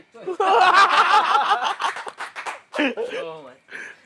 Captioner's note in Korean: 웃음